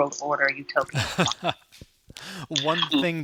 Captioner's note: laughing